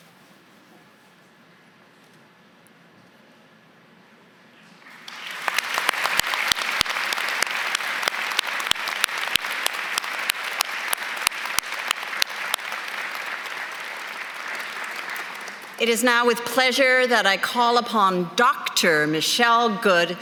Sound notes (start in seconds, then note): 3.4 applause; 8.6 applause; 13.7 applause